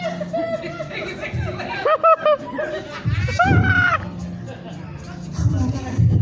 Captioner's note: scattered laughter